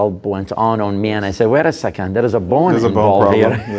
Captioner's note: laughs